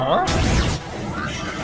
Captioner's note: explosion